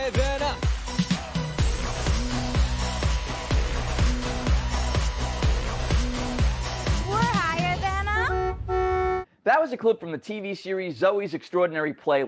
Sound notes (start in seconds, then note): 2.7 dance Music; 8.0 car horn beeping